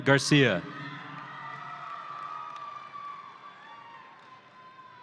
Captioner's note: audience cheering